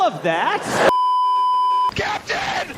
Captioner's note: beeeeeeeeeeeep